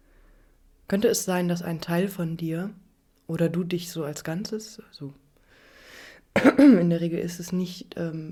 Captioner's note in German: räuspern